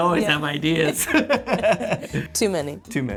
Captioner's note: laughs